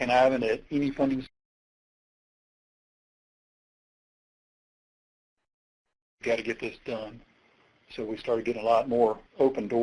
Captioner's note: audio gap